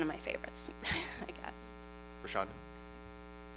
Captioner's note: laughs